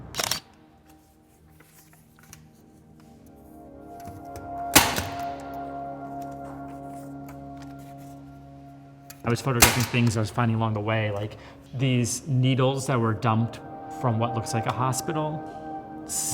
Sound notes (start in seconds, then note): 0.1 sound of camera shutter clicking; 4.7 sound of staple gun triggering